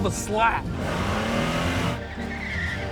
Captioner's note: engine revs